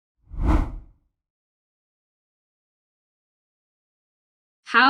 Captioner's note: rough whooshing